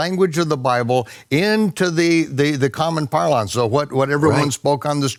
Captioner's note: speaks in foreign language